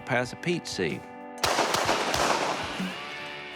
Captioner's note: gunshots continue